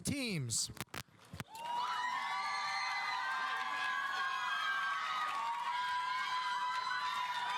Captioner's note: audience applauding; audience cheering